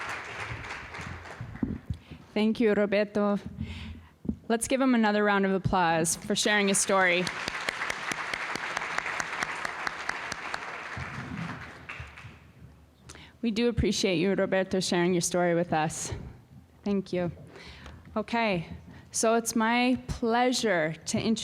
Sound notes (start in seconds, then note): 6.5 applause